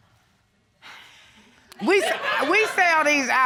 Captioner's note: sighs